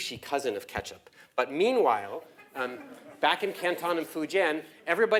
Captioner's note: laugh